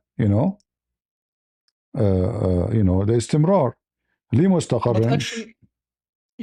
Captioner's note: Arabic